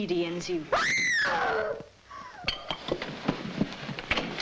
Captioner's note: woman screams nearby